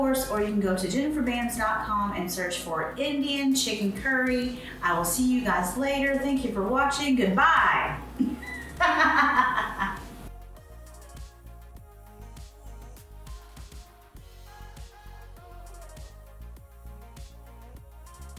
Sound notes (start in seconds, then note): 8.2 laughs; 10.7 upbeat music